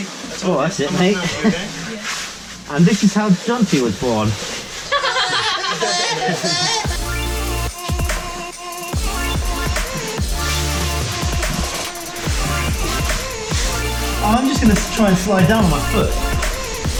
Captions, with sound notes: - Yeah, alright mate. And this is how Jonty was born. (laughter) I'm just gonna try and slide down on my foot.